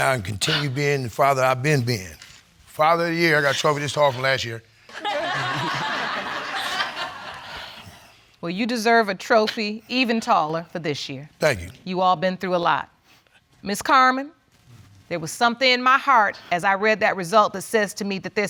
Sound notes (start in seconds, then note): 4.9 audience laughing